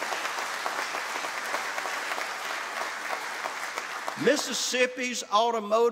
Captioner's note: applause